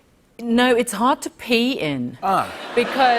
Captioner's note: laughter